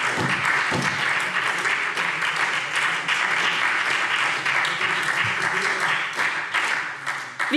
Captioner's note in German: Beifall SPD